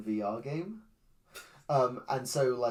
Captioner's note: scoffs